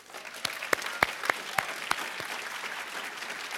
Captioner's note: applause